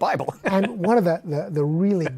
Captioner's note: laughs